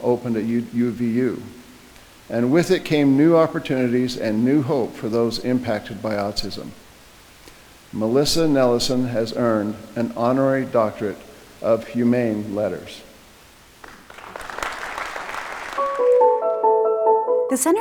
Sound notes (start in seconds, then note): 13.8 audience applauding; 15.7 inspirational music